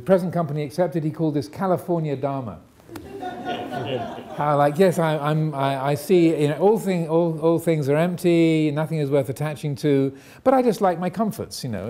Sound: audience laughing

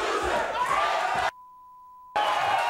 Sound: beep; audience cheering

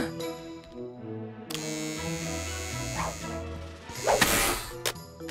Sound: gasping; buzzing

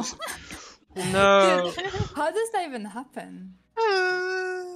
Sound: haha

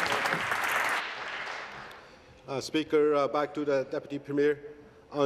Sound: applause

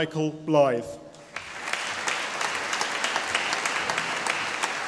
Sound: audience applauding

